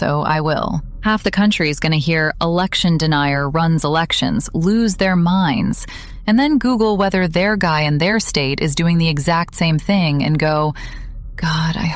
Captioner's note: quietly